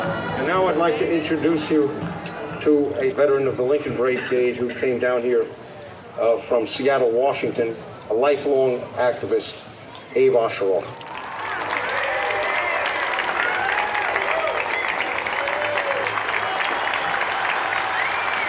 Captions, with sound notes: - And now I'd like to introduce you to a veteran of the Lincoln Brigade who came down here from Seattle, Washington, a lifelong activist, Abe Osheroff. (audience cheering) (audience applauding)